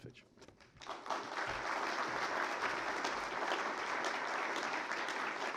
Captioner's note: applause